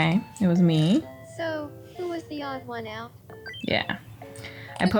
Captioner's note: game audio